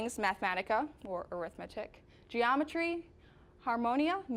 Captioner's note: none